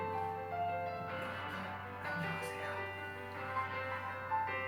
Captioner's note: whispering